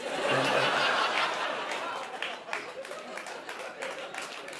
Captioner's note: laughter